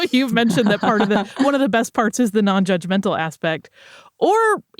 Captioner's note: laughter